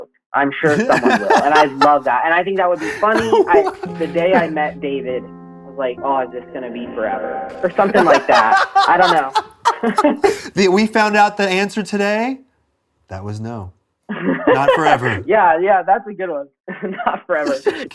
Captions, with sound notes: I'm sure someone will and I love that. I think that would be funny. "The day I met David, I was like, 'oh, is this going to be forever?'" -Something like that. I don't know. -[laughs] We found out the answer today. That was no, not forever. Yes, that'd be a good one. Not forever.